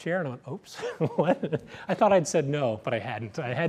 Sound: laughs

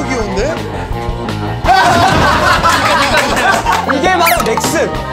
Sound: sparks real laughter

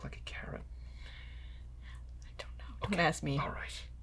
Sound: whispering

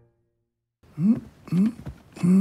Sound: Simon grunting

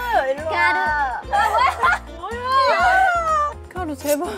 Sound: crowded A car is busy laughing

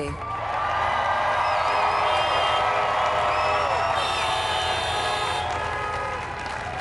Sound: crowd applauds

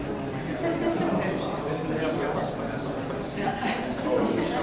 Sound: people chattering

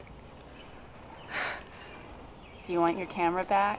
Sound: sighing

